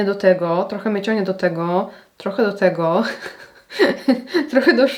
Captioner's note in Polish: śmiech